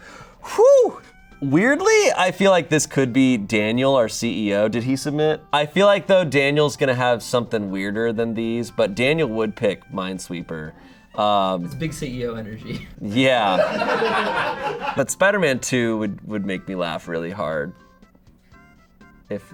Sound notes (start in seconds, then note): 13.3 laughs; 13.4 audience laughing